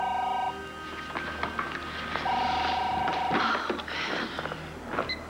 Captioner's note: phone rings